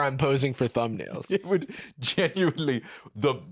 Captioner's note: laughing